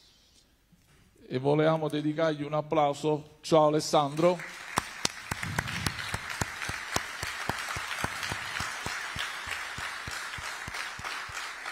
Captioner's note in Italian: Applauso